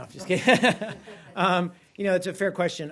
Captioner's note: laughter